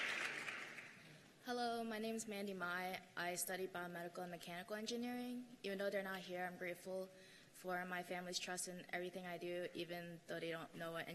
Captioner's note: cheers and applause